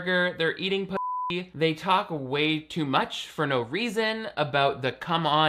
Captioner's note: beep